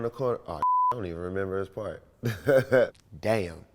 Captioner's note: beep